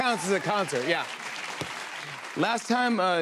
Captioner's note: applause